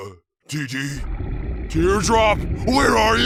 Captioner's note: scary noises